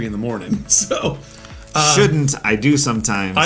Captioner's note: chuckles